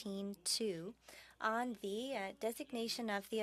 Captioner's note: speaking French